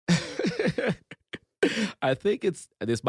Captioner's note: laughs